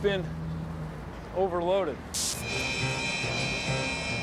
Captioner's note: electricity crackles